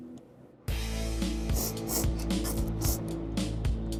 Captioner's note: slurping